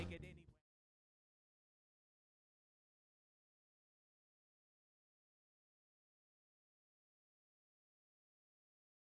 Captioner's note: silence